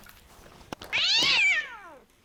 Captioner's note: stock angry cat sound